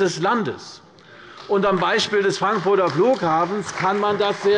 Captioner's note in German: Beifall bei Abgeordneten der CDU